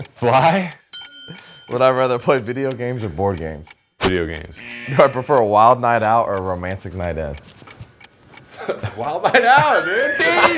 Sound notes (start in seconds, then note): 0.9 bell dinging; 4.5 buzzer blaring